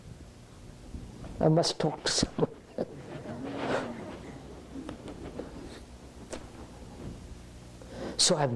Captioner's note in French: Rires